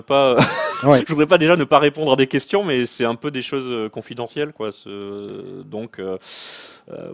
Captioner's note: laughs